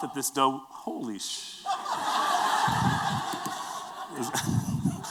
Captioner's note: laughter